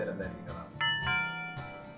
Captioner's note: doorbell sound